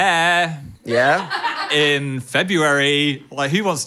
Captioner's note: staff laughing